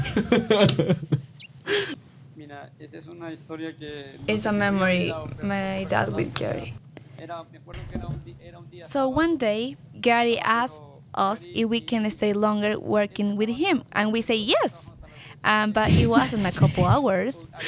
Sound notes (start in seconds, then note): 0.0 laughs; 2.6 speaks in Spanish